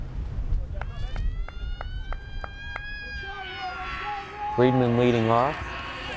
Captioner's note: crowd cheering